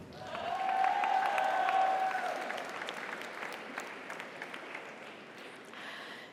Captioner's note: audience cheers; audience applauds